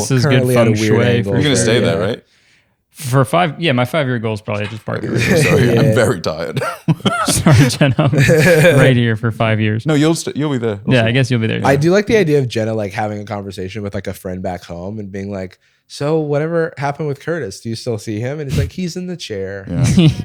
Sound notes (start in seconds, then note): 6.5 laughter